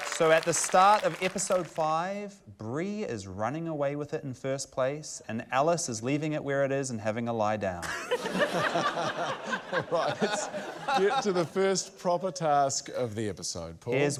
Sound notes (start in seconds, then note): 7.8 laughter; 8.0 laughs